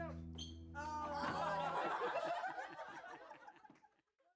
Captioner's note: laughing